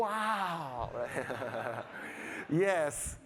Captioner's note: all laughing